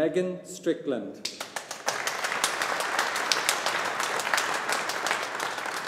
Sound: audience applauding

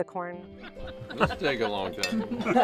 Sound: chatter

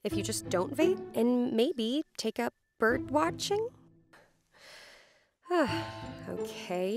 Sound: sighs

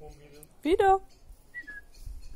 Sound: whistling

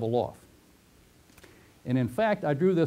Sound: pause

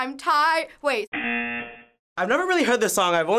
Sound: buzzer

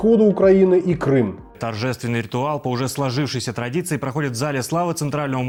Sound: Russian

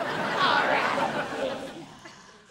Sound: laughing

